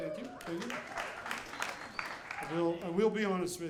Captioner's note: audience cheering